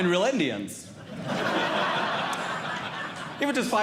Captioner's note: audience Laughing